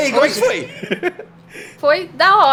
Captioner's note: laughs